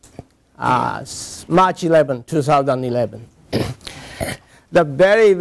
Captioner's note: cough